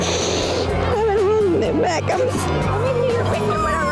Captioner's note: crying